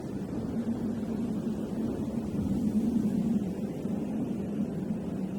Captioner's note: wind blowing continues